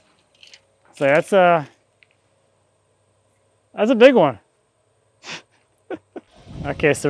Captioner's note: laughing